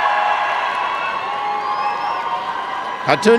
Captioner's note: applause and cheering